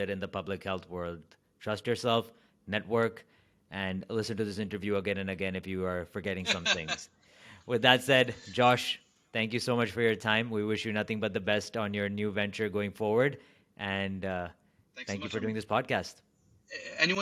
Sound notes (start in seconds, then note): 6.4 laughs